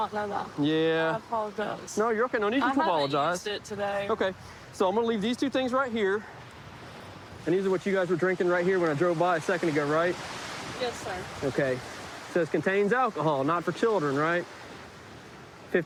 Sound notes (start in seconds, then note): none